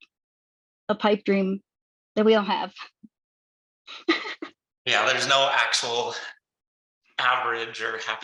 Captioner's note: laughs